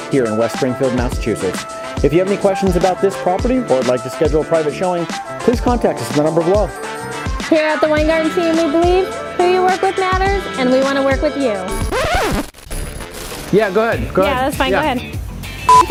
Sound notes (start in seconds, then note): 11.8 record scratching